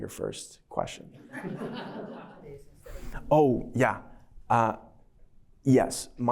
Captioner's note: laughter